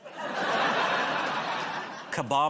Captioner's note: laughter